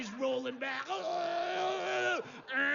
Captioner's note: gritos tensos